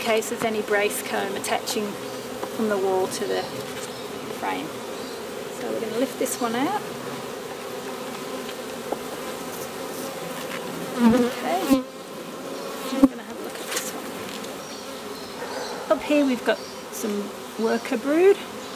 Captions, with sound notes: just in case there's any brace comb attaching from the wall to the frame. So we're gonna lift this one out. (bees buzzing) Okay. We've got some worker brood.